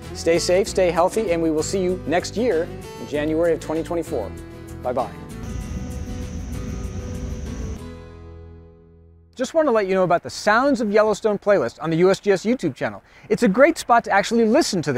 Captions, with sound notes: Stay safe, stay healthy, and we will see you next year in January of 2024. Bye-bye. (mellow guitar music) (geyser hissing) Just wanna let you know about the Sounds of Yellowstone playlist on the USGS YouTube channel. It's a great spot to actually listen